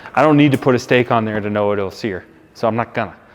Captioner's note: none